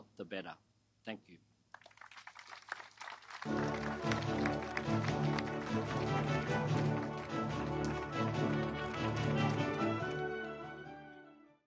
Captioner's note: applause